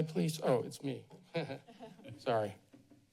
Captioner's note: laughter